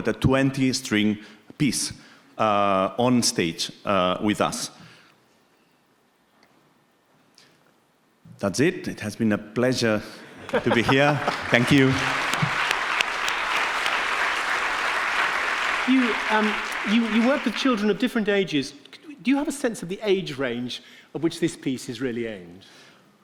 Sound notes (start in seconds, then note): 12.4 audience clapping